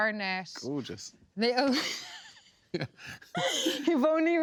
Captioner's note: laughs